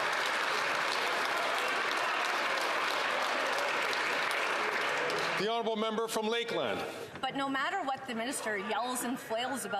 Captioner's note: some Applause